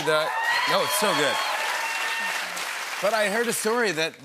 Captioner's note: cheers and applause